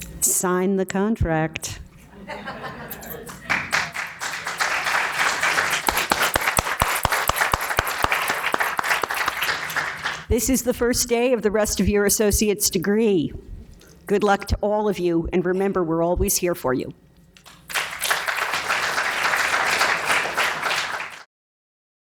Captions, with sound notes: - Sign the contract. (laughing) (applause) This is the first day of the rest of your associate's degree. Good luck to all of you, and remember, we're always here for you. (applause)